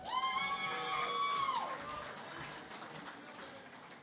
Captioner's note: cheering and Applause